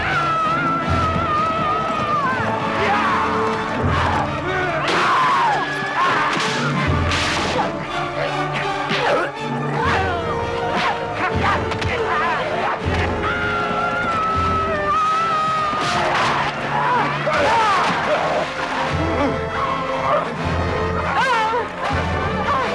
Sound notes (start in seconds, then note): 0.0 villager wails; 5.0 raider shouts; 9.0 all grunting; 13.5 villager yells; 19.0 both grunting